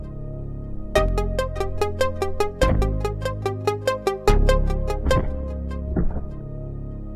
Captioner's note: pensive synth music; body thuds